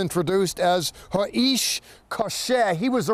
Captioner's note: speaking in Hebrew